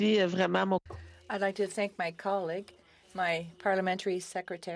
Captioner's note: speaking FRENCH